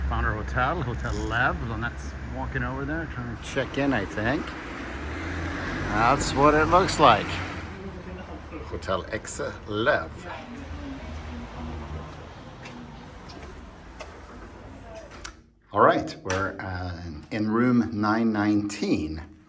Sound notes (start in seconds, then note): 11.1 people chattering